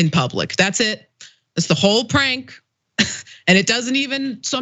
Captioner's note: laugh